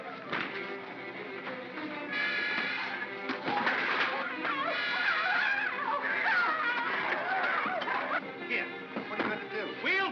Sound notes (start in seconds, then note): 0.0 Bogeymen screaming; 0.0 darts thunking; 4.2 suspenseful music; 4.4 Bogeymen screaming